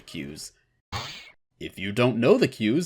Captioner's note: elasticy sproing